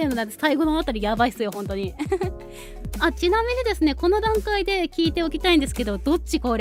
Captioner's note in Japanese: 笑い